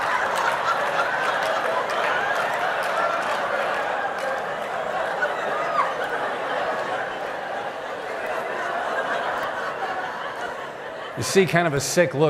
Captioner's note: laughter